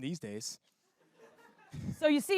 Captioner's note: laughter